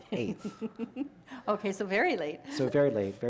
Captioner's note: chuckle